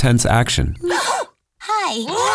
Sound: princesses gasp

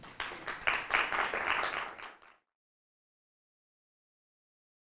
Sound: audience applauding

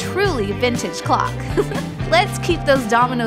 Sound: chuckle

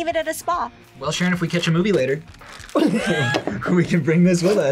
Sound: laughs

